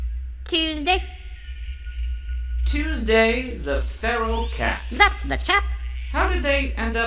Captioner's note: none